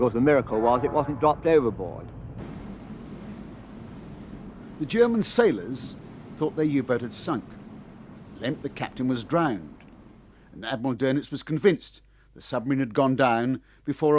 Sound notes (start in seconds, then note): 2.4 waves crash